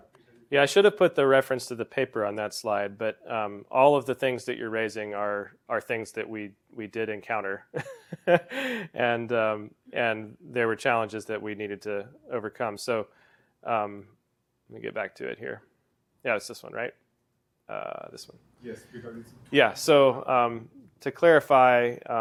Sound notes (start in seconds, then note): 7.8 laugh